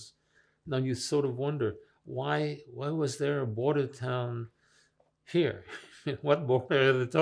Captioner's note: laughing